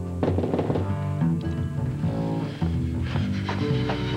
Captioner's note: Ca frappe à la porte